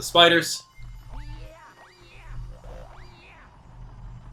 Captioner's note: gaming sounds